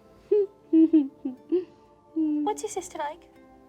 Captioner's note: contented humming